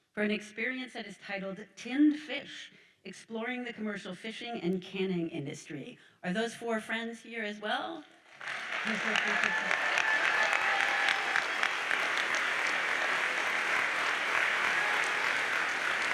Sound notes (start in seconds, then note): 8.4 audience cheers and applauds